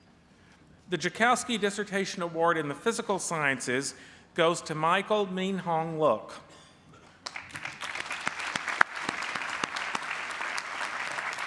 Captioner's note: applause